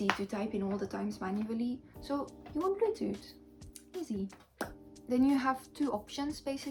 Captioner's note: lips smacking immitating a "poof"